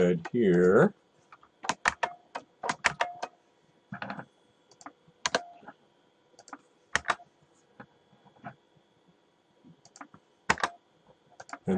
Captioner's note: typing